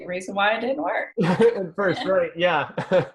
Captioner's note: laughs